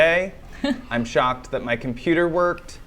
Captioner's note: laughs